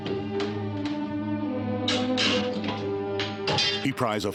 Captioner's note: nails creaking